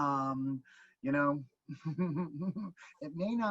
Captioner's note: laughing